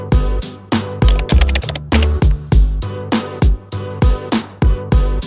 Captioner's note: upbeat music; text typing